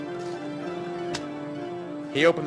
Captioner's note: knock